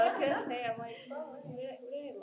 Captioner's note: speakers laughing